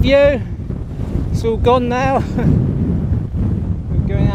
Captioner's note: laugh